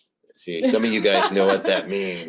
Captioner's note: laughs